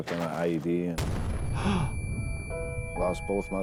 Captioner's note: host gasping; dramatic music